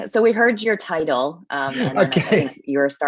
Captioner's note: chuckling